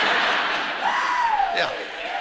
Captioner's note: person cheers